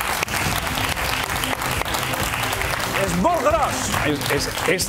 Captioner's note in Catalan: aplaudiments